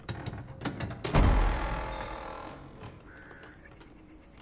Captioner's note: door creaks open